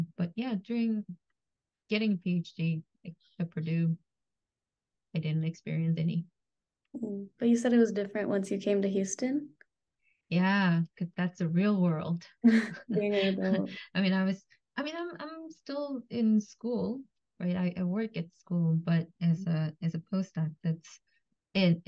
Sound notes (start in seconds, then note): 12.6 laughs